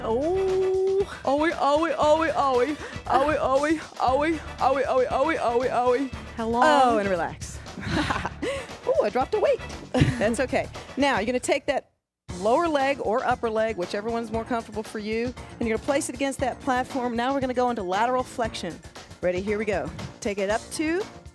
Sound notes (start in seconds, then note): 7.8 laughs; 9.9 chuckles